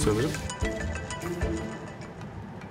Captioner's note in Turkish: Telefon çalıyor